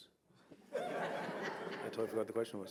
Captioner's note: audience laughing